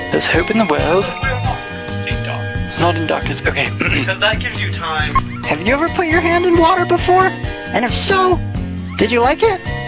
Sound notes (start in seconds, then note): 3.4 clears throat